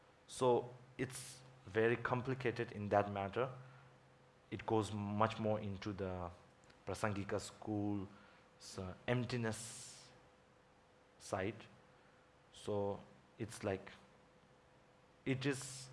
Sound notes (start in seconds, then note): none